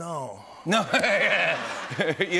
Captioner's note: laughter